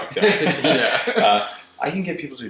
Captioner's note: laughter